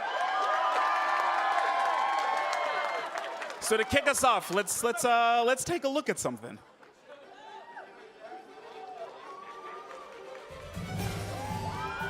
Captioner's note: applause